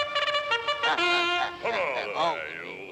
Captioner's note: Popeye laughs